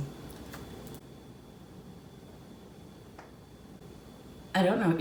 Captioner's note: incredibly long and uncomfortable pause